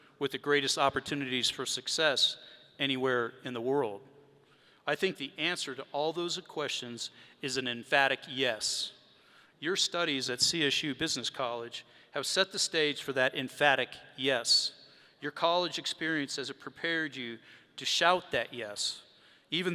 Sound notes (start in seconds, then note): none